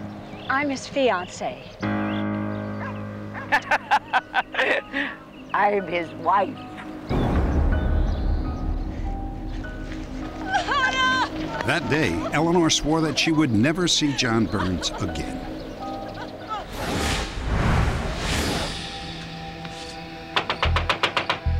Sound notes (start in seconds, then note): 3.3 laughter; 10.4 sobbing